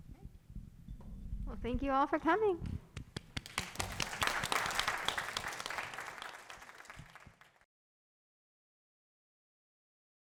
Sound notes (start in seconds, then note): 3.3 audience and panel applauding